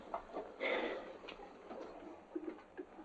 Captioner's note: gasps